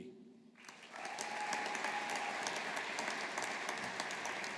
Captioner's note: audience applauding